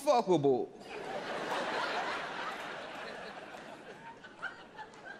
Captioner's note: audience laughs